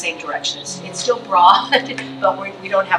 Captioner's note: chuckles